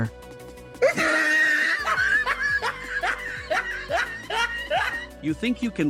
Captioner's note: laughs